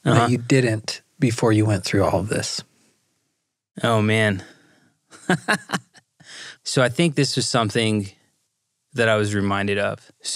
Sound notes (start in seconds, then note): 5.1 laughs